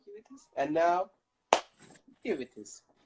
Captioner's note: clap